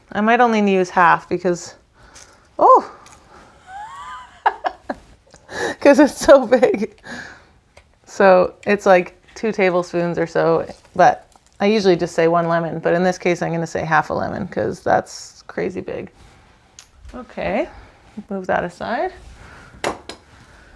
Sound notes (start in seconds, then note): 3.6 laughs